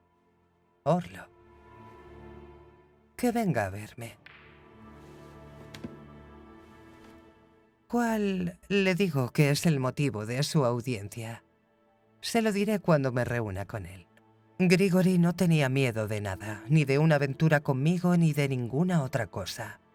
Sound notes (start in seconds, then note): 4.1 balls cracking